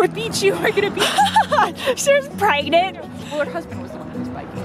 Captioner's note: laugh